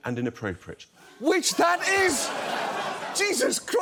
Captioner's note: audience laughs